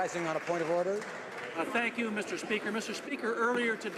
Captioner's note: some Applause